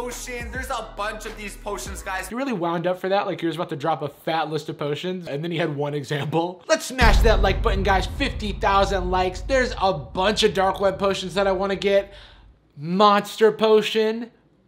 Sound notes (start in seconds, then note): 7.0 dramatic slam